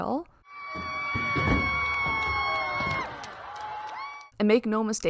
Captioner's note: cheering and clapping